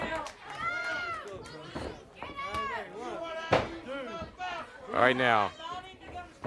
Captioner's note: crowd chatter